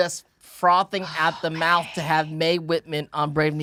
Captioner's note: Janet whispering